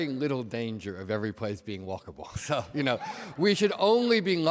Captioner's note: laughs